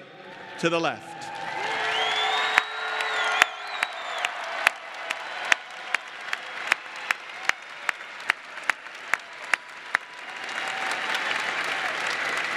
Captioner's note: applause